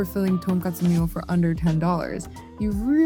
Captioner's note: speaking Japanese